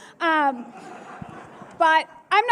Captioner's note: laughter